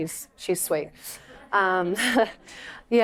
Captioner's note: laughter